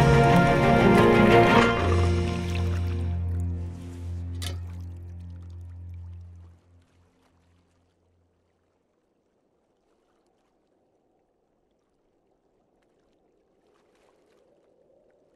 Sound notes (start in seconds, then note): 4.4 clink